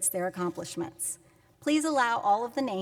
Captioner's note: none